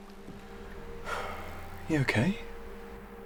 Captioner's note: sighing